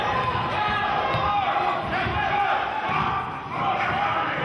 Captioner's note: yelling